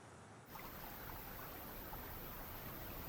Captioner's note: water rippling